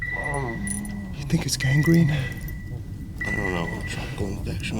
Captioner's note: man crying